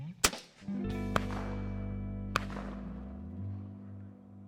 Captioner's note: loud gunshot